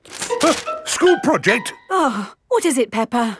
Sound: gasps; sighs

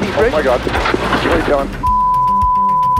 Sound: beeping

